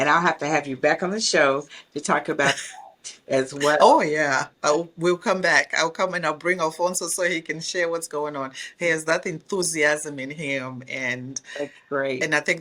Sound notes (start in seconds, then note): 2.4 laughs